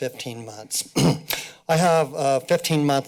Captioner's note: clears throat